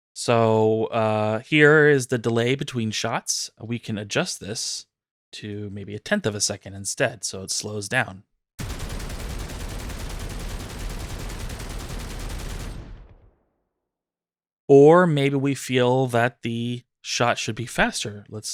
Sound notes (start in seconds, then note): 8.6 rapid gunfire